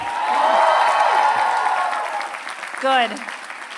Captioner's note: applause